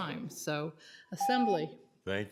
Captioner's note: timer tone